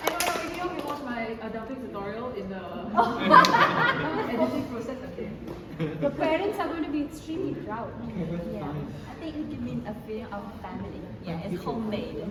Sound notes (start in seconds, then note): 3.0 laughter